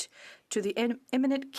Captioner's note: speaking French